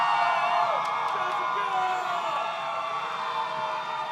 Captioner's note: audience cheers